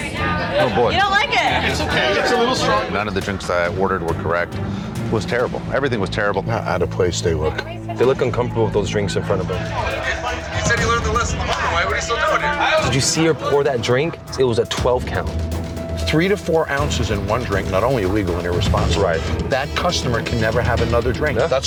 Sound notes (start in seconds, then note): 10.4 chatter